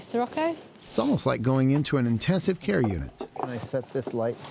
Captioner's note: none